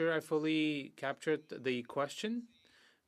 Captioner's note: speaking French